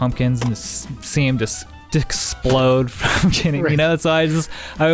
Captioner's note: laughs